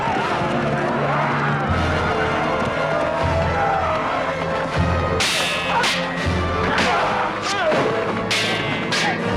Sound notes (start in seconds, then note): 5.3 swords clanging